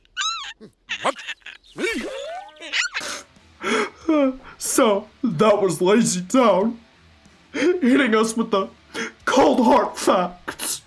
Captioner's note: sniff